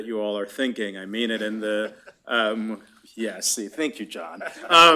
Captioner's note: laughter; laughter